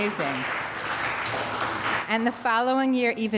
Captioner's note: audience applauds